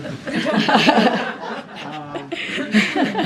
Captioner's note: laughter